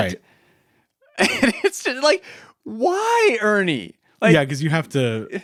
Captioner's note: laughs